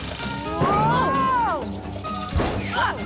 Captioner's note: humming; splash